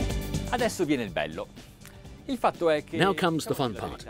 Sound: bright, energetic music; speaking in a foreign language

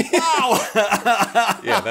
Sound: chuckles

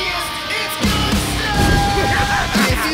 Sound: insane laughter

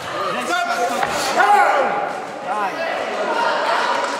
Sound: shouts; claps

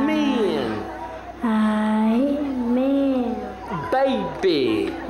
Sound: repeats with reverend's accent

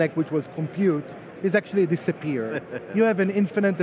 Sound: laughing

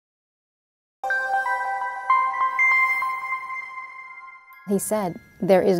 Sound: gentle chiming

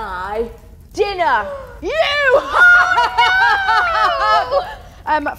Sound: evil laugh

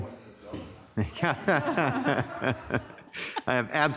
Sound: mayor laughing

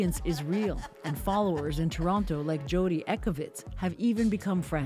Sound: laughter

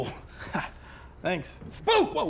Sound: laughs awkwardly

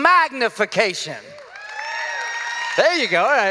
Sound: cheers and applause

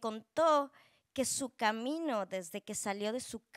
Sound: speaking Spanish

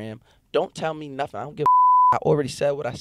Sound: beep

